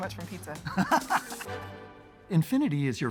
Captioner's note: laughs